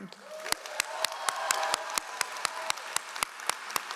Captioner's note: all applauding